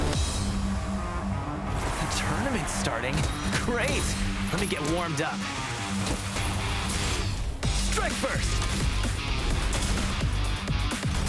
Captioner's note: fighting noises